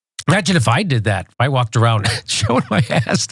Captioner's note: laugh